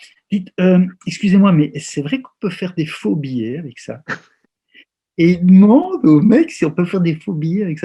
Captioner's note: laughs